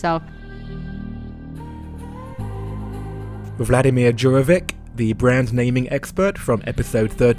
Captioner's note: voiceover